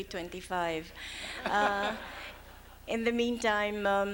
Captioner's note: laughs